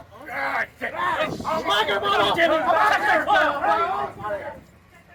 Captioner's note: all shouting